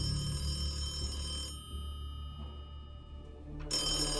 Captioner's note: phone ringing